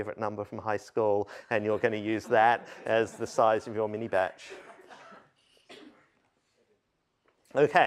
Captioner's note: laughter